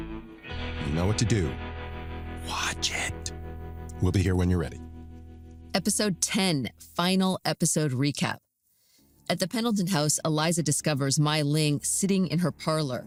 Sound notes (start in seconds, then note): 2.1 whispers